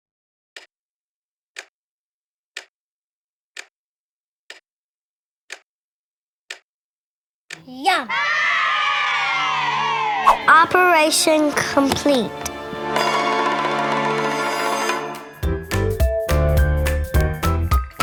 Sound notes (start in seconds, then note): 0.2 clock ticking; 8.0 cheers